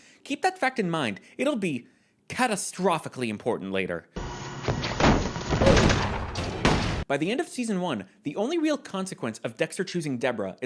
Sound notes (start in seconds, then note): 5.4 repeated gunshots; 5.6 Roblox oof